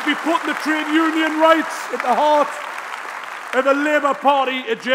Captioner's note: applause